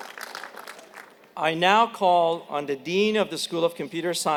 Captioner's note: applause